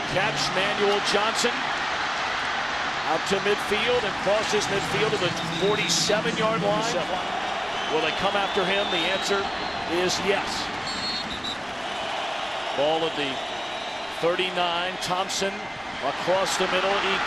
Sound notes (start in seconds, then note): 1.4 crowd cheering; 10.8 whistle